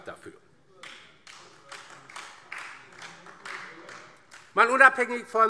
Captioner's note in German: Beifall DIE LINKE und vereinzelt SPD